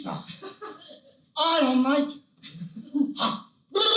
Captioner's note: Al Pacino Voice